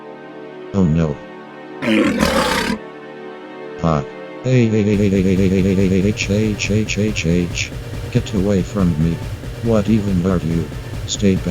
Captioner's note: The Entity roars & goes after RXR-167